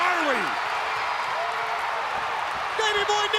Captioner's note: crowd cheering